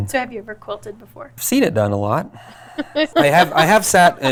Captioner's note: laughs